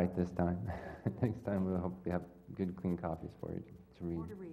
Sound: laugh

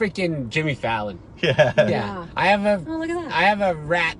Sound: laughs

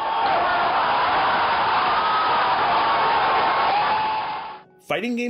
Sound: crowd in clip shouting excitedly

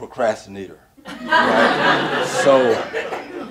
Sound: audience laughing

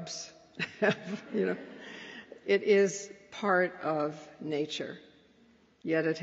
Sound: laughs

